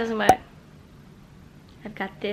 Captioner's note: pop